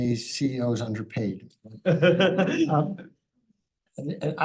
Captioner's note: laughter